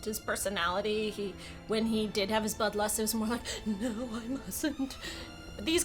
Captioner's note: gasp